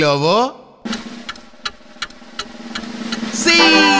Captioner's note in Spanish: Sonido de reloj